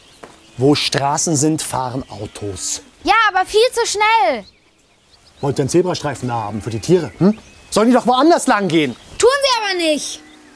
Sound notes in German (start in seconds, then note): none